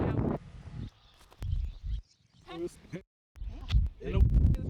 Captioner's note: birds chirping